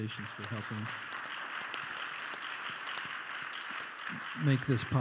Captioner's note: applause